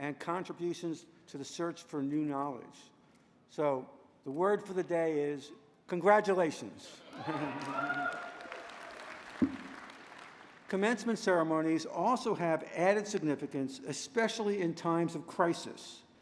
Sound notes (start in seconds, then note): 7.1 applause